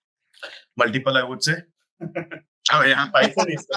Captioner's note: laughs